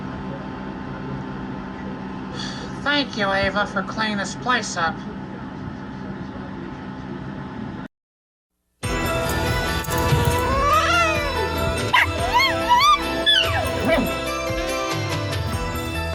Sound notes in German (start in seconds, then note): 9.6 Caprice zischt und jault dann; 11.8 Ella bellt und heult dann